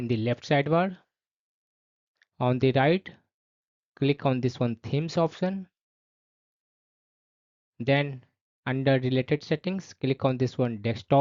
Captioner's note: click